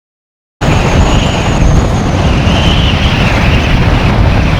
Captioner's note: blizzard and Snow Storm Sounds